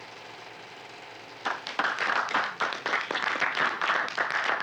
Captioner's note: applause